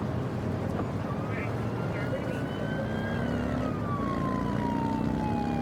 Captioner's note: siren blaring